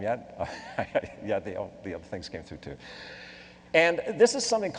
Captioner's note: laughs